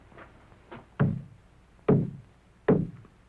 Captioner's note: three taps